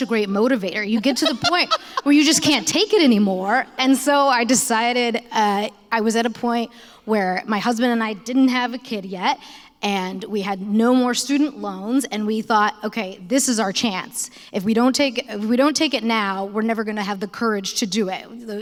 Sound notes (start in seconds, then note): 0.9 laughter